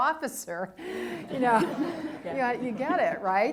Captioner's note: laughing